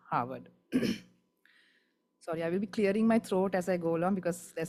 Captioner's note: clears throat